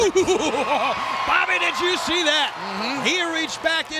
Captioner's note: chuckles; audience cheers